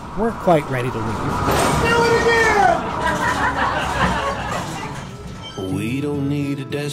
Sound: laughter

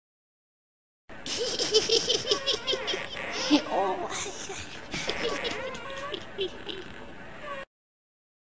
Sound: laughing witch

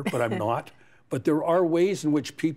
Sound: chuckles

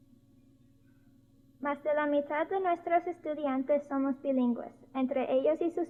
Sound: spoken in Spanish

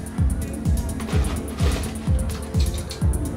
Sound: ice scraping

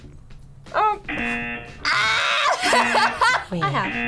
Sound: laughs

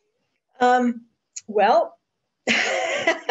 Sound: laughs

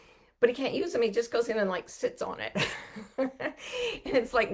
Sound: chuckles

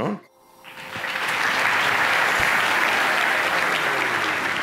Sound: applause

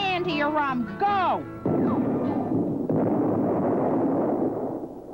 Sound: thunderstorm

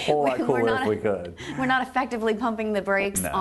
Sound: laughing

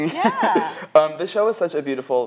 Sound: laughs

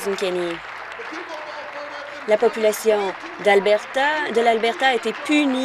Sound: applause

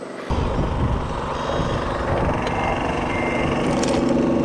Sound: engines rumbling

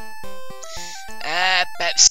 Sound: inhale

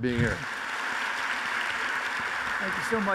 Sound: audience applauds

